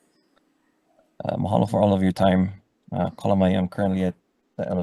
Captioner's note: speaks foreign language